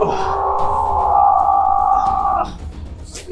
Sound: Billy Butcher yells

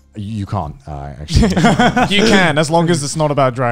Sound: men laughing

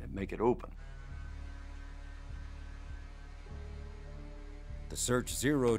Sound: servo motors humming

